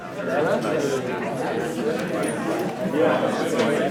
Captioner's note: background chatter